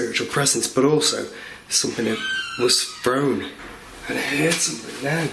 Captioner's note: door creaking